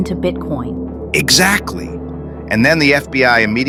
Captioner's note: excited